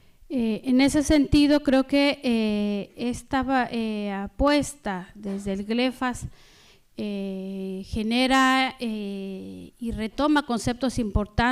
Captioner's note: speaking spanish